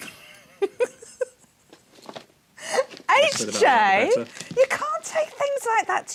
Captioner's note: laughs